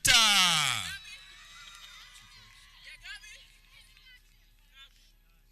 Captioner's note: people cheering